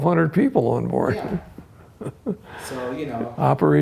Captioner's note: chuckles